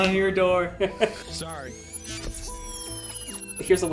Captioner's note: neuralyzer noise